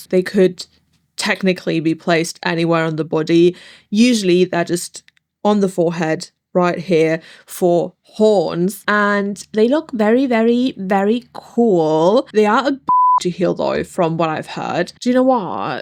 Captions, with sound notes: They could technically be placed anywhere on the body. Usually they're just on the forehead right here for horns and they look very, very, very cool. They are a (beep) to heal though from what I've heard. Do you know what?